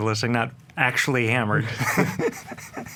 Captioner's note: laughs